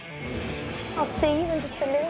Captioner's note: school bell ringing